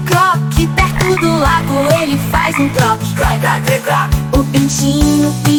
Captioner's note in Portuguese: Croac, croac, croac